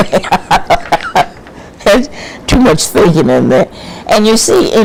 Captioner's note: laughs